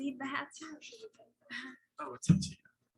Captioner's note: speaking faintly